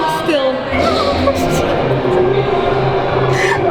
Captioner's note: laughs